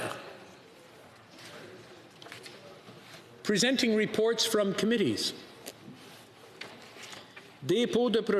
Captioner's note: speaking French